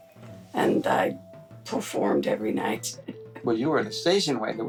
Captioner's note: chuckles